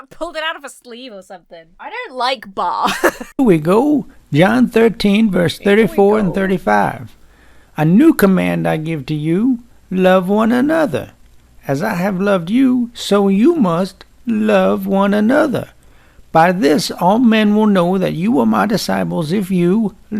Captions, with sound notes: pulled it out of a sleeve or something. I don't like Baa. (laughs) - ...we go. John 13, verse 34 and 35. - "Here we go." - "A new command I give to you: "Love one another. "As I have loved you, so you must love one another. "By this all men will know that you are my disciples "if you